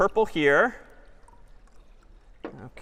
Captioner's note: water pouring